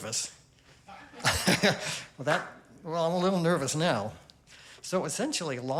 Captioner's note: chuckles